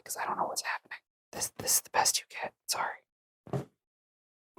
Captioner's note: whispering